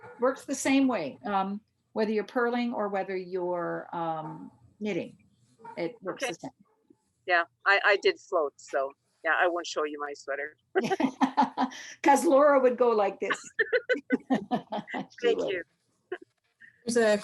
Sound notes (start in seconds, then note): 10.8 laughs; 13.2 laughter